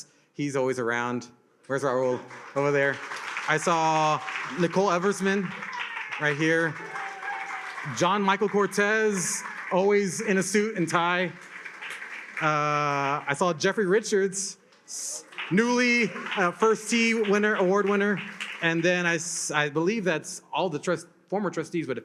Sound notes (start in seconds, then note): 2.9 attendees applauding; 6.8 attendees cheering and applauding; 11.4 attendees applaud